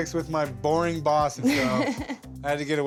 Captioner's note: laughs